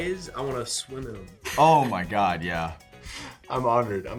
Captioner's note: Gavin laughs